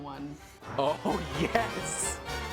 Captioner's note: voiceover; upbeat lively music